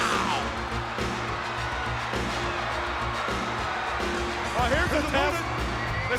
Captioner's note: audience cheers; upbeat music